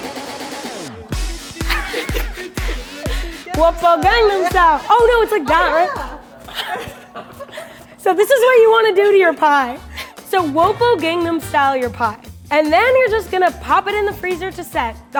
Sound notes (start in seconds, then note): 6.7 laughing